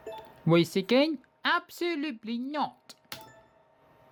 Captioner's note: none